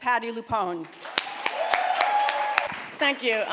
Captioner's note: applauding